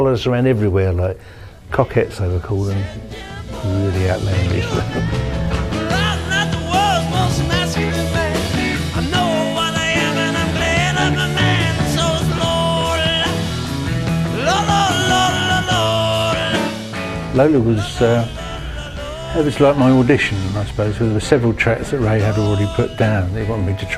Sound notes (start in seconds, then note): 4.6 giggling